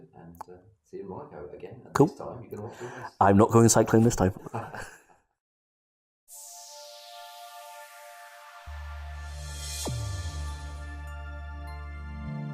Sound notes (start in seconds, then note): 4.5 laughter